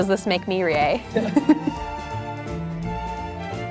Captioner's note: laughing; lighthearted music